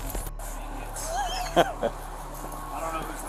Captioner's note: officer laughs